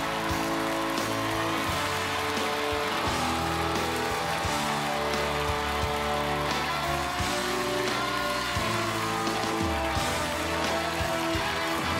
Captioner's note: cheers and applause